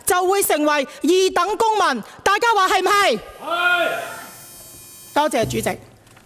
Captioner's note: shouting out: Yes!